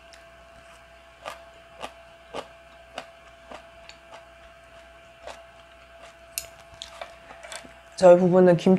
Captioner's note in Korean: 백김치 씹는 소리